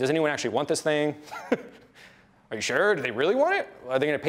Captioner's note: laughs